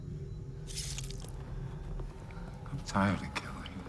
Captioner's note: flesh slicing